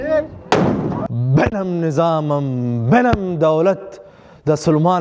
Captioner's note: Turkish